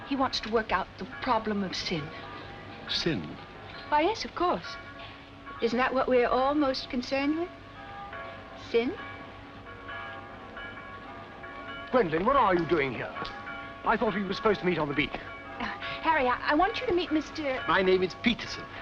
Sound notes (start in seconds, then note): 9.5 church Bells